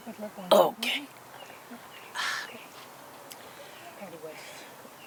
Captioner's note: woman murmurs